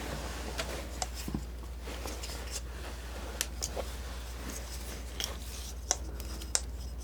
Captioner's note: tapping